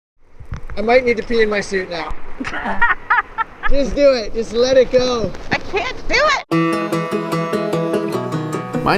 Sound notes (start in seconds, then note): 2.4 laughs; 6.5 upbeat guitar music